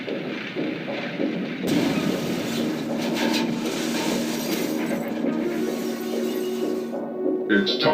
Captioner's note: crashing sounds